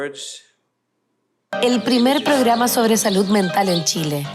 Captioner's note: speaking spanish